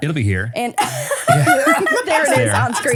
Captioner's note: everyone laughs